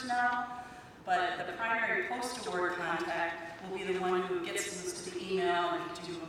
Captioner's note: none